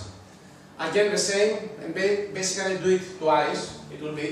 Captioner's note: none